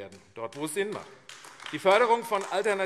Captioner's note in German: Beifall AfD